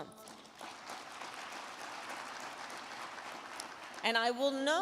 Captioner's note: crowd clapping